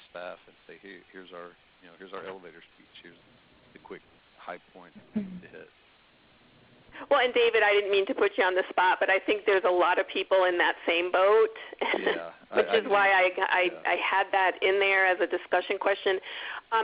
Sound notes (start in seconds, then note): 11.8 laughs